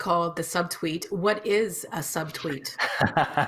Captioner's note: laughing